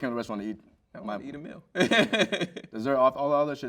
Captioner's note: laughs